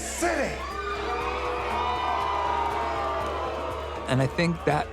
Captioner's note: crowd booing